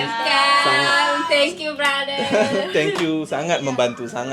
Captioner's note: laugh